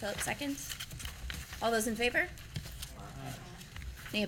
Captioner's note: chorus of ayes